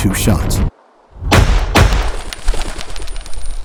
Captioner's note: gunshots